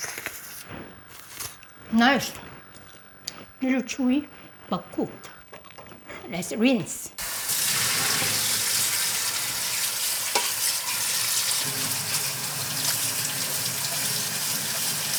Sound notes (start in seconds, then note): 0.0 Maangchi slurping; 7.2 water draining; 12.3 water splashing